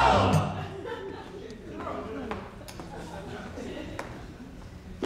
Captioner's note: audience laughs